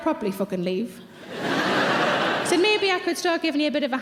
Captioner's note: audience laughs